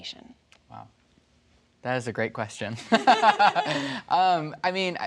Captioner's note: laughing